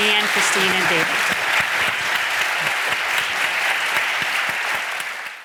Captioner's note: audience applauding